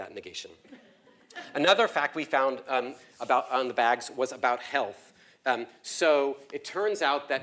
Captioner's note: laugh